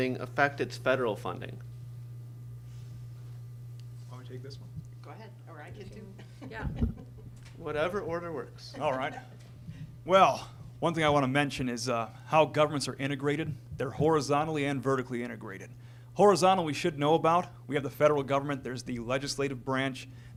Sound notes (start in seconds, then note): 6.0 laughs